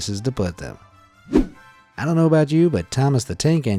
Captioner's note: image whooshing